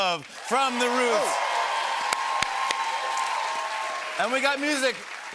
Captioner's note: cheers and applause